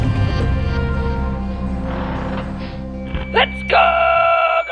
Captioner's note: engine rumble